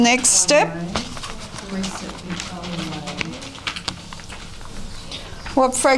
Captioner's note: audience chatter